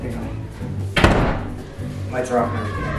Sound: door closing

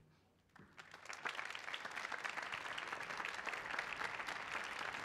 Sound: applause

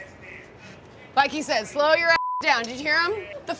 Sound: beep

